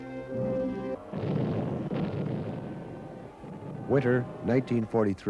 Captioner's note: cannon blasts